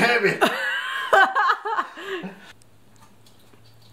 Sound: laughs

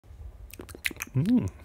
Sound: eating noises

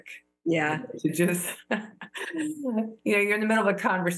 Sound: laughter

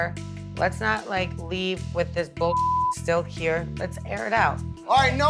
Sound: beep

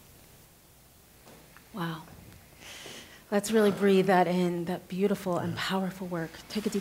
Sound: deep breath

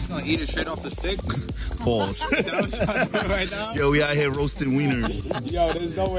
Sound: laughs

